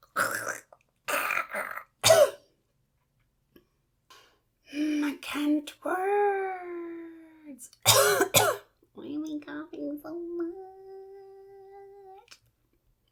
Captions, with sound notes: [PHLEGMY COUGH] Hmmm I can't words! [MORE COUGHING] Why am I coughing so much?!